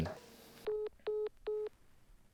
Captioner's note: phone hangs up